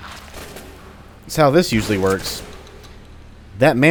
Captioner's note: boom